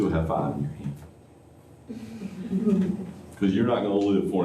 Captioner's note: laughter